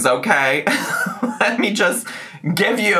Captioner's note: chuckles